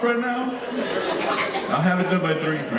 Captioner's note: audience laughing